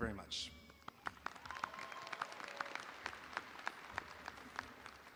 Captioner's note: audience applauding